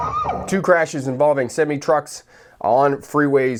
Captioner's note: beeping and crashing